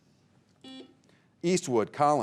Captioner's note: buzzer beeping